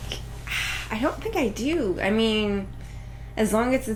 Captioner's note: sigh